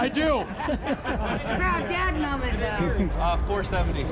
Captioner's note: laughing